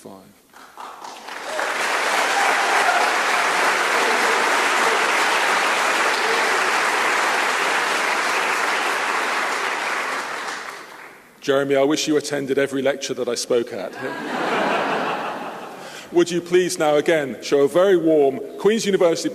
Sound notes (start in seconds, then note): 0.2 applause; 13.9 laughter